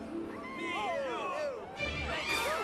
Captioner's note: crowd chattering